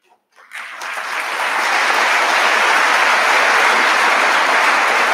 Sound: audience applauding

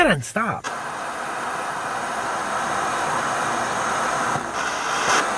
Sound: electrical static

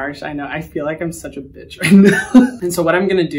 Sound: laughs

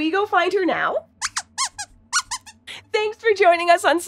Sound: squeaks squeaks

